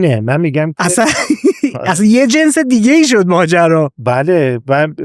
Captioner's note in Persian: خنده